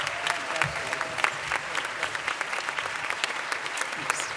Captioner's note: applause